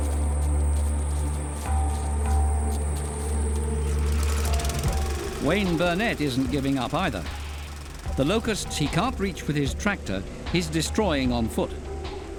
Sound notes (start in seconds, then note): 4.3 motor rumbling